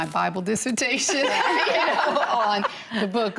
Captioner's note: laughing